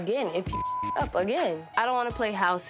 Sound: beep

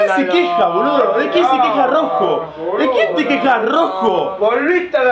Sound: cursing

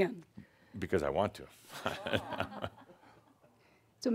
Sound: chuckles

